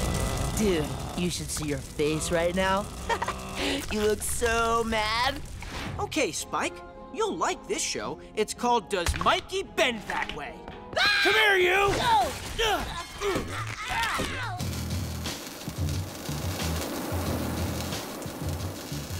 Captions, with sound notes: Dude, you should see your face right now. [chuckles] You look so mad. Okay, Spike, you'll like this show. It's called Does Mikey Bend That Way? [screaming] Come here, you! [grunting]